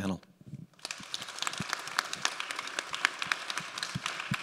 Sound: audience applauds

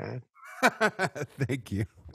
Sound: laughs

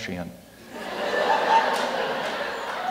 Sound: laughter

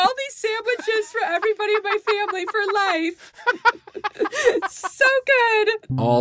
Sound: all laughing

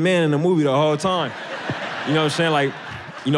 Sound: audience laughs

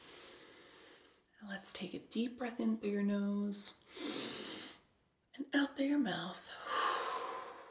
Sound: breathes; exhales

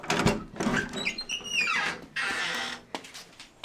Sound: door creaks

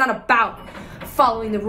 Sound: elevator ding

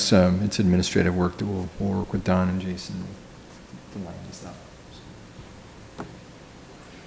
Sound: speaking quietly

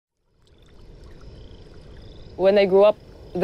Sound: water rippling; insects chirping

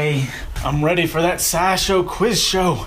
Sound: faux Southern accent

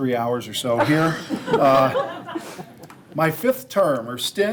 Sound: board members laughing

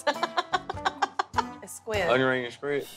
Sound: chuckles; laughs

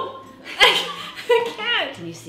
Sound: both laughing

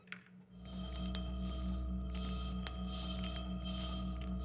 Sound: laser whines

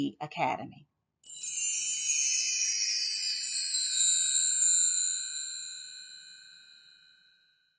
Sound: chimes

